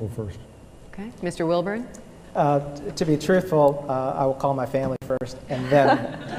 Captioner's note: laughter